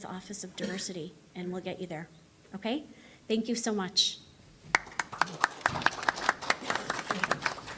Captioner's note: applause